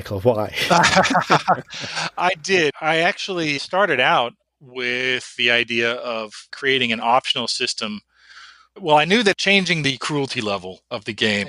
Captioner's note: laughs